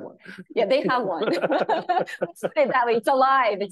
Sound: laughing

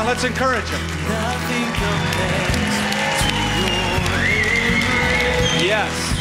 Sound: cheering

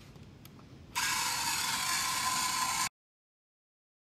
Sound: machine whirring

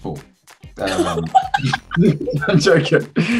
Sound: laughing

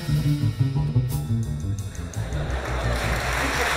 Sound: laughter; applause

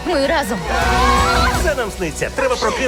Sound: all scream

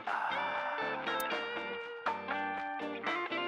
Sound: none

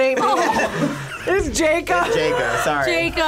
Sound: group laughs

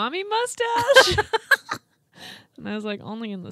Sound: group laughs

